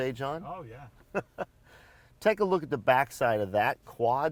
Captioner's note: chuckles